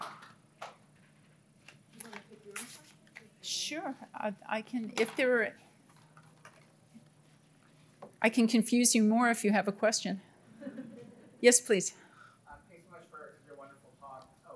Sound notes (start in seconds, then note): 10.6 audience laughing